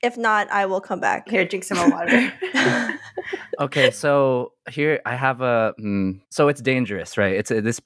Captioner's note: laughter